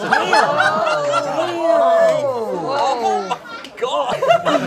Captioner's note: all gasping